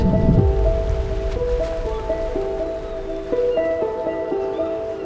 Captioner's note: nature ambience